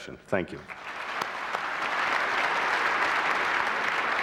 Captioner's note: applause